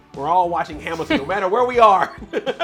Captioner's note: chuckles